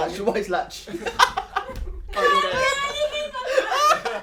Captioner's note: guys laughing; laughing; screams